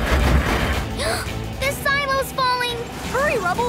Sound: gasping

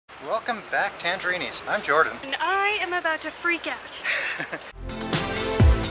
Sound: laughter

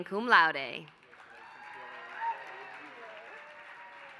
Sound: applause

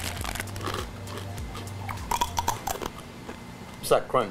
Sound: chips crunching

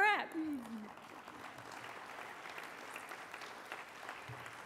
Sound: applause

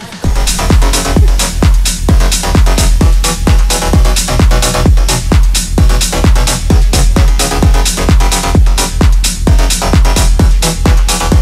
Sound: atmospheric sounds

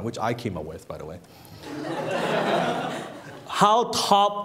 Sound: laughing

